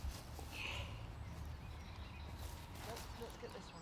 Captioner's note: birds chirping